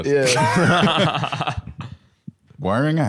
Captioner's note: bb laughing